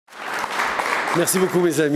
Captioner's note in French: Applaudissements